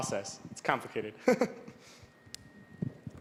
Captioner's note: laughing